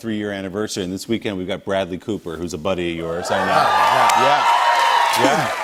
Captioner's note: cheers and applause